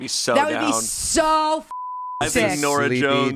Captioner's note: beep